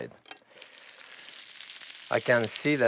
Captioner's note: sizzling